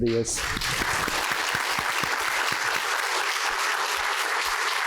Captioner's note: applause